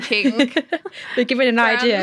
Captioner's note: laughter